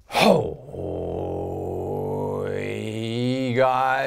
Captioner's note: growling